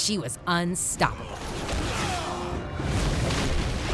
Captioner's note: groaning